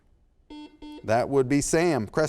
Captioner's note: buzzer sounds